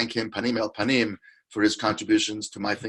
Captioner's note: speaks in foreign language